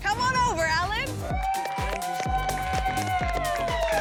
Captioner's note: cheering